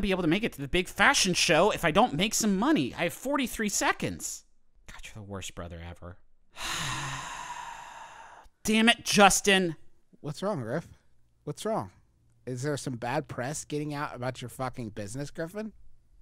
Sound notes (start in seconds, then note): 6.5 sighs